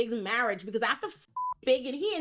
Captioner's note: beep